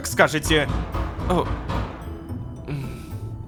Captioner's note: knocking on door